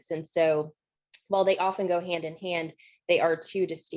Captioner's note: none